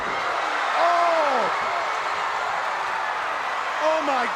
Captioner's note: crowd cheering